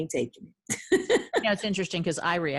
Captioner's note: laughing